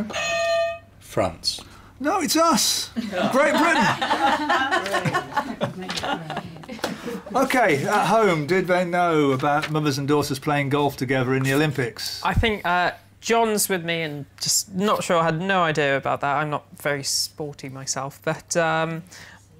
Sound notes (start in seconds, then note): 0.1 clang; 2.9 laughter